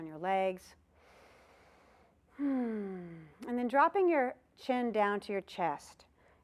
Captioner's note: sighing sound